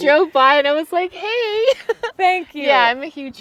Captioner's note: laughs